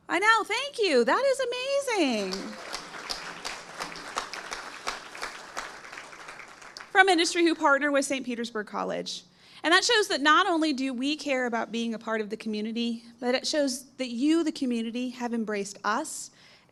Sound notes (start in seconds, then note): 2.1 audience applauding